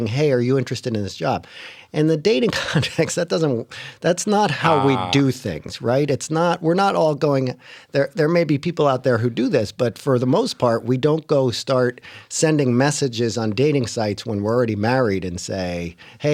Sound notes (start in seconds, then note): 2.5 laughter